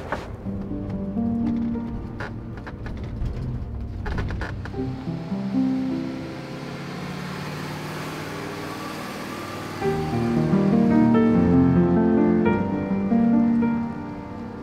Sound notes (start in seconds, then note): 0.2 gentle music; 7.5 engine purring